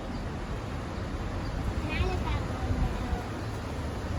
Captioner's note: water flowing downstream/driving over trestle